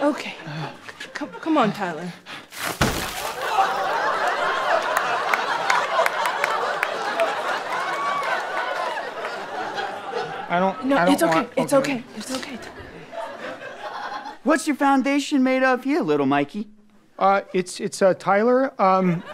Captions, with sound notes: - Okay, come on, Tyler. [smashing] - I don't-- I don't want-- - No, it's okay. It's okay. - What's your foundation made of here, little Mikey? - Uh, it's uh, Tyler,